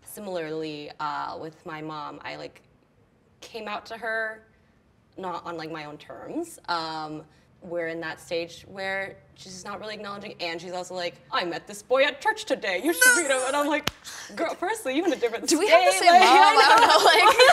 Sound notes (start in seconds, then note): 12.9 laughs strained